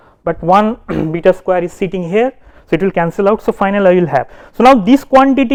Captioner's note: vocalized noise